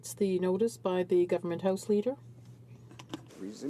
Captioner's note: speaking in french